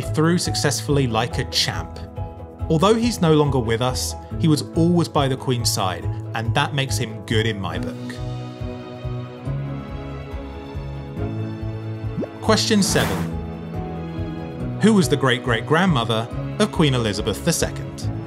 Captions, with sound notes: through successfully like a champ. Although he's no longer with us, he was always by the queen's side. And that makes him good in my book. (gentle music) (number pops and whooshes) Question seven. Who was the great, great grandmother of Queen Elizabeth II?